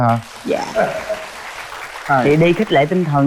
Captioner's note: applause